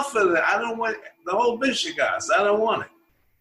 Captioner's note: foreign language